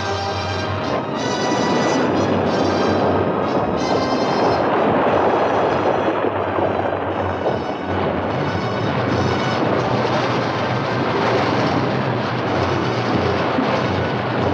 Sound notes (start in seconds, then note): 1.4 waves crashing; 8.0 suspenseful music continues; 8.0 water gushing